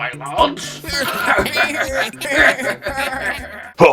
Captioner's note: laughter